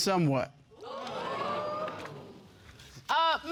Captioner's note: audience exclaiming